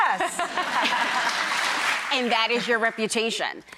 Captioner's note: audience applauds